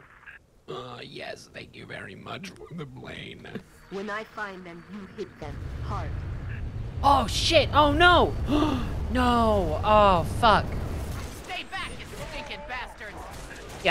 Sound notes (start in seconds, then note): 0.6 speaking while inhaling to make robot voice; 9.5 gasps